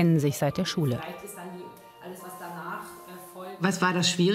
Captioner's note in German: Leise Gespräche, ruhige Musik